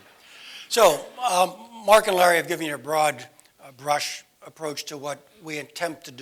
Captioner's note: laugh